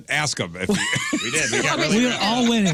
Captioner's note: laughing